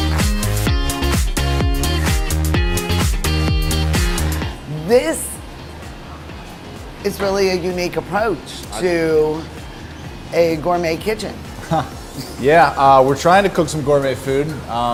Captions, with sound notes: This, is really a unique approach to a gourment kitchen. (laughs) - Yeah, we're tryin' to cook some gourmet food.